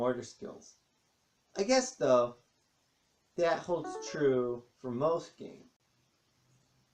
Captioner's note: ping of Kindle